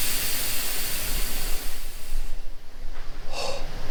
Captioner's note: to go gas leak sound disappears